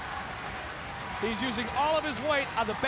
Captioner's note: crowd cheering